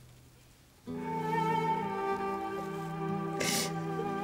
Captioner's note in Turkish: Ağlıyor